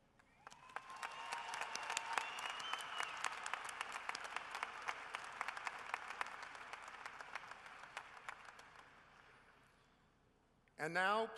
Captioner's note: cheering and applause